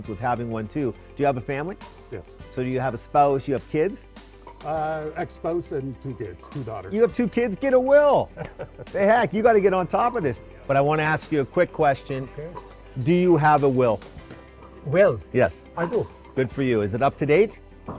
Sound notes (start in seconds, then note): 8.2 chuckles